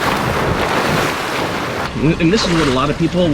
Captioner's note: water splashing